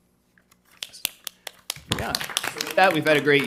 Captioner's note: attendees applauding